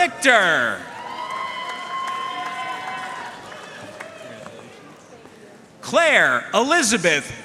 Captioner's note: audience cheering and applauding